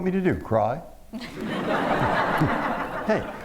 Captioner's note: laughter